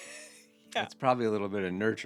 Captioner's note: laughing